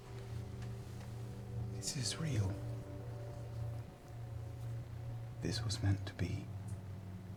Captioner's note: none